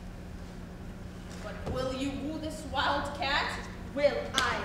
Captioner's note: none